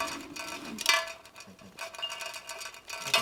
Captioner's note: tin can rattling